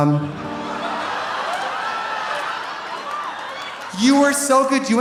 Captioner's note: audience laughing